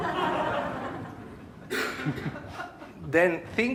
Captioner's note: audience laughs